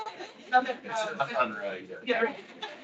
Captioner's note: attendees laughing